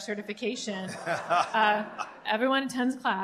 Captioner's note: laughter